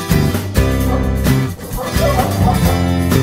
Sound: lively music; barking

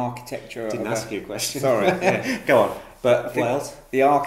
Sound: laughs

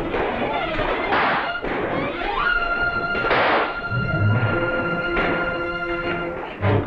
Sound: gunshots - tense music

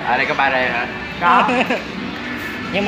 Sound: laughing

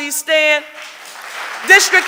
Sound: audience applauding

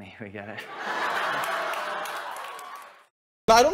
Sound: audience laughs

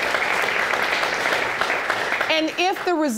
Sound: audience applauding

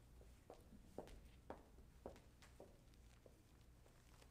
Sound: heels clicking

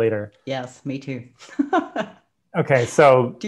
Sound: laughs

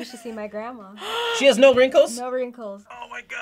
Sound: React gasps

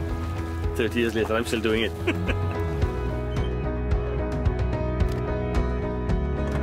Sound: laughs

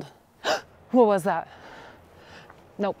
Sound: gasps

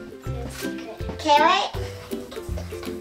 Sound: whispering

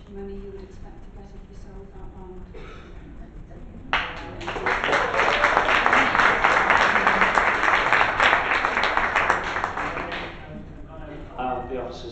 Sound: applause

